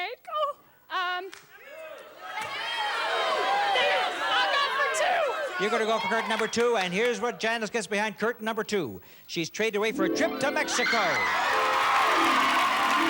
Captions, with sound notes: Oh... (cheers) -I'll go for two. -You gotta go for curtain number two and here's what Janice gets behind curtain number two. She's traded away for a trip to Mexico. (cheers and applause)